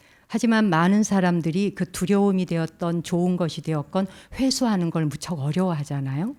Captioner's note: speaking in Korean